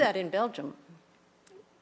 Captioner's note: none